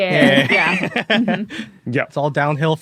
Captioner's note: laugh